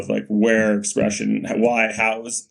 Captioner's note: none